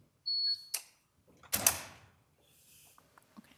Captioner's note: machine beeps